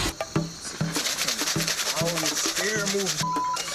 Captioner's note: rocks shaking; beep